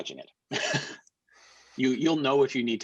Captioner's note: chuckles